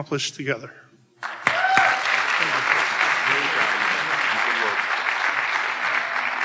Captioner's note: audience cheering and applauding